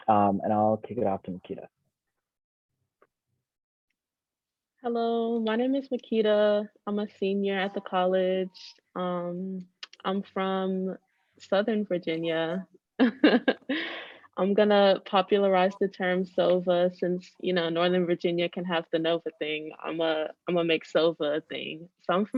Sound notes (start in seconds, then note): 13.2 laughing